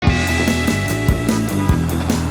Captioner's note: car honking